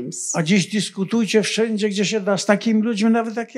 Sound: foreign language

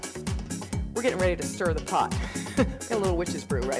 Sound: laughs

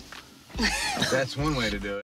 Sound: laughs

